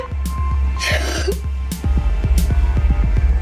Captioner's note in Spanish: llora